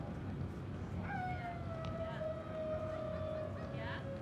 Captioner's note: dogs howling